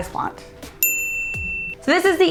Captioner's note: dings